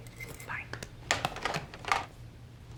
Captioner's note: hangs up telephone